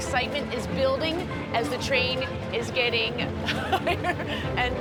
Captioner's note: chuckling